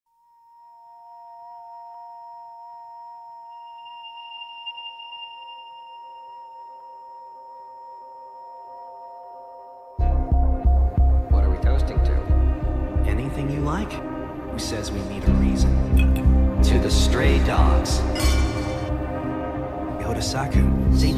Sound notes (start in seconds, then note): 18.1 glasses clink